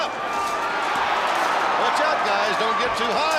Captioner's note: crowd cheering